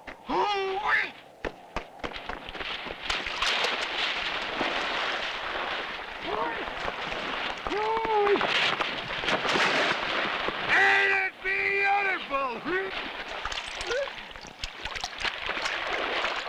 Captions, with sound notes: Ooh-ee! (water splashing) Ain't it beautiful! (water splashing)